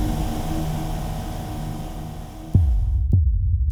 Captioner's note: car revving fades; gentle music